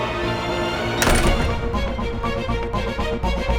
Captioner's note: doors rattling